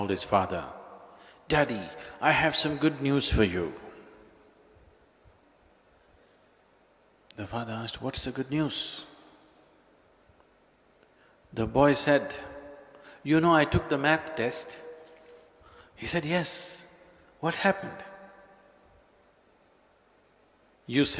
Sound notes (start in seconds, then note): none